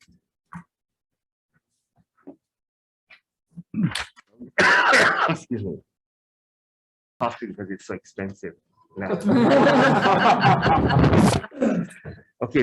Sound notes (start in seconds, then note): 4.5 coughing; 9.0 attendees laughing